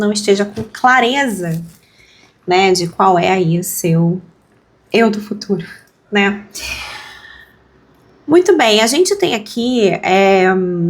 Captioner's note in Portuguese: suspirando